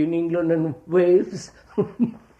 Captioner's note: laughs